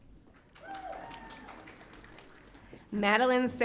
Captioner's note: audience cheering